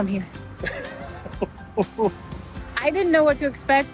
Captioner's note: laughs